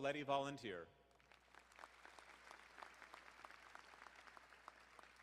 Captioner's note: crowd applauding